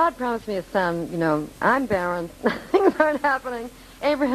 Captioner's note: laughing